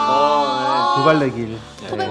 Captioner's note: astonished